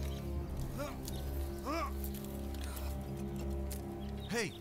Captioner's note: grunting